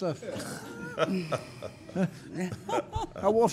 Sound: laughing

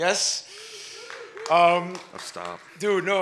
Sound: audience cheers and applauds

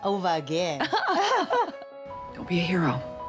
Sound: laughing

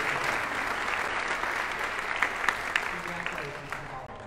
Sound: audience applauding

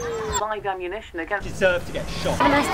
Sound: radio Announcer

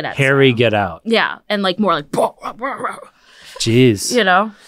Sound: grumbling

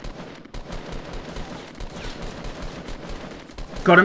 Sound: gun shots

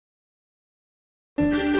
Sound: silence

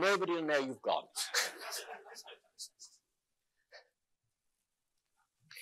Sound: audience laughing

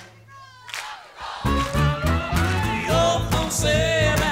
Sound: crowd

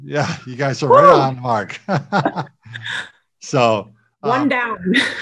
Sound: laughs

